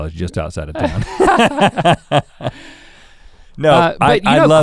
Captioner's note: both laugh